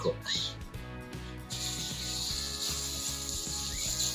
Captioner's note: sizzle of chicken patty on the grill